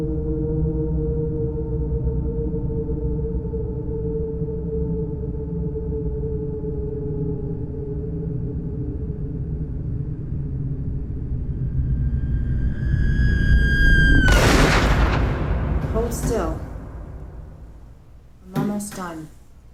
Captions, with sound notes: (screaming) (gunshot) - Hold still, I'm almost done.